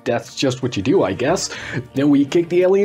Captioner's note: gasp for Breath